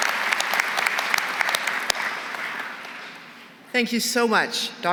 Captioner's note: applause